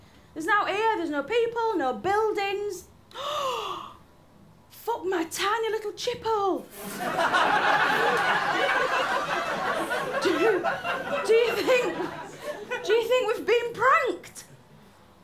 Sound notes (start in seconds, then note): 3.1 gasps; 6.7 laughter